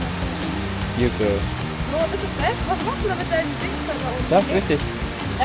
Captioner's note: speaking German; speaking German